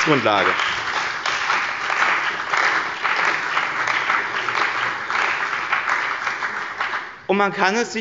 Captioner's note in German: Beifall bei dem BÜNDNIS 90/ DIE GRÜNEN und der CDU